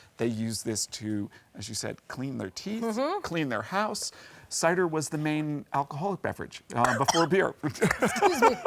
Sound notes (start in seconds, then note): 6.8 coughs